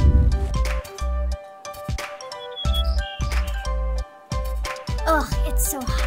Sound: upbeat music; birds chirping

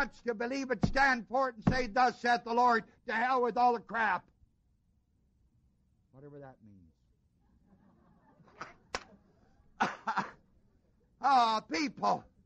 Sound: ha ha ha

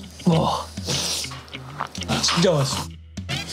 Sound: sniffing

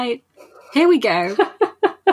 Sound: laughter

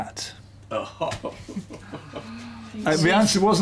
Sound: laughs

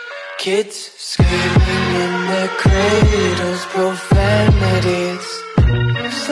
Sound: screaming in their cradles, profanities

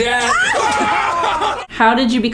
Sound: shouts

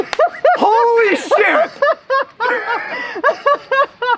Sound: laughing

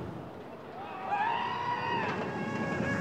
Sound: passengers scream

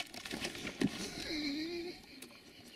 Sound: laughs

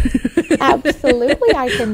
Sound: laughing

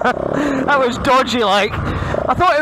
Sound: laughs

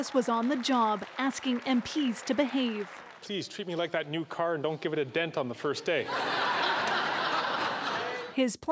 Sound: applause

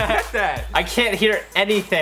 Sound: laughs

